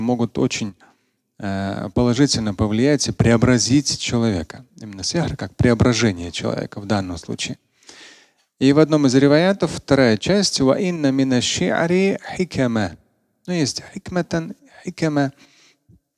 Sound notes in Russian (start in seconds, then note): 4.5 говорит на арабском; 10.8 говорит на арабском; 13.4 говорит на арабском